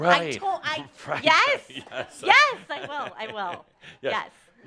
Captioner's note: Adamus chuckles